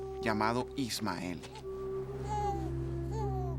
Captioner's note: bebé llorando